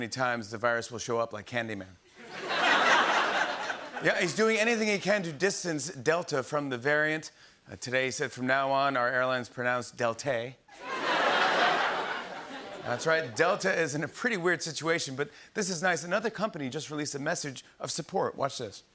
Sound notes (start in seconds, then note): 2.2 laughter; 10.7 laughter